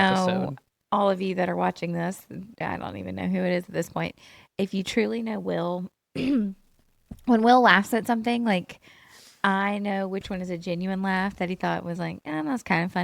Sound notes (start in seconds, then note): 6.2 clears throat